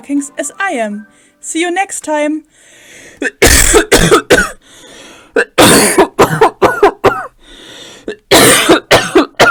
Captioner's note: coughs multiple times